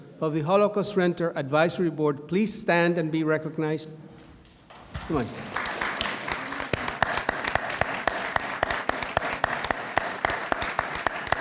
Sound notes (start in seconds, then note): 4.7 audience applauds